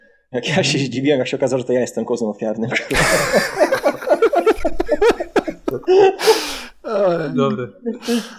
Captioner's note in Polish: śmiech